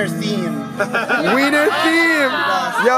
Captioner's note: cheering